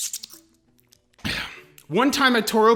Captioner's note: satisfied sigh